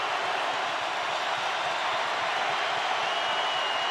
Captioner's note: crowd cheering